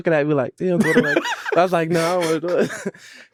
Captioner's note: father laughs; laughs